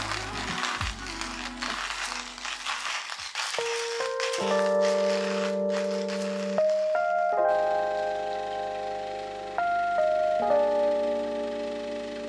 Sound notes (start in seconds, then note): 0.0 grinder crunching; 3.6 gentle music; 8.2 coffee machine buzzing